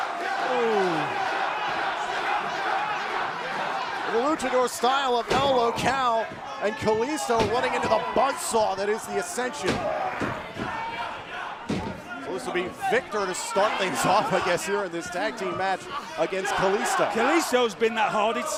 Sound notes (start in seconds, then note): 2.3 fans chanting